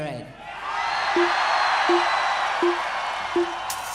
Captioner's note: audience cheers